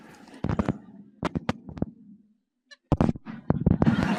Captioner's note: mic whirring